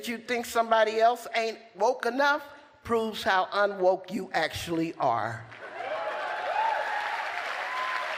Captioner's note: applause